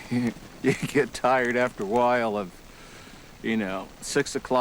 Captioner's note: chuckling